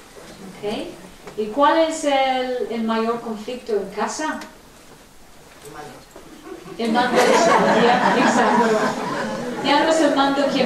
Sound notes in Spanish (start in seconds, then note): 6.3 Risas